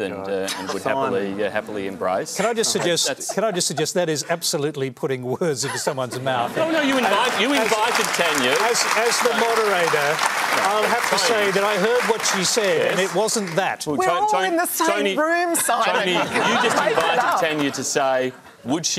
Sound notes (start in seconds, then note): 6.7 applause; 15.5 laughter